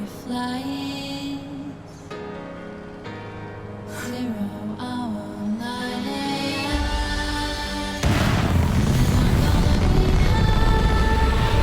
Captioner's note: gunfire